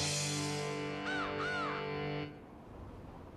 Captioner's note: crow cawing